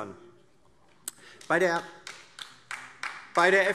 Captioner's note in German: Beifall DIE LINKE und vereinzelt SPD